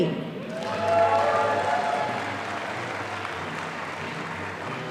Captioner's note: audience applauding